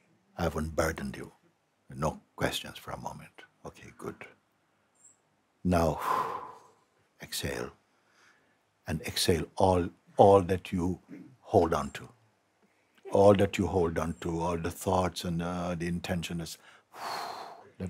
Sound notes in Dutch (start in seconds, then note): 5.9 Mooji ademt uit; 16.6 ademt uit